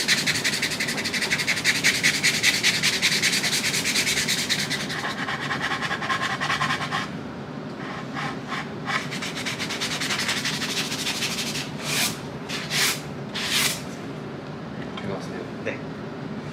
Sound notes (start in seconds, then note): 5.0 sanding ASMR